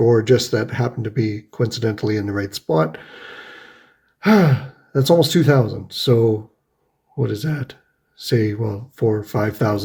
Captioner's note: sighs